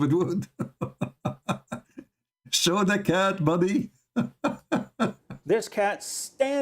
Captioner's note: Ketawa